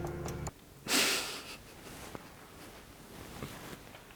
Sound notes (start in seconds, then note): 1.0 laughing